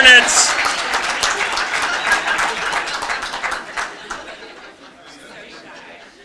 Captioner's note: cheering and Applause